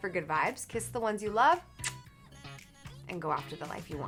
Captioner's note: smooching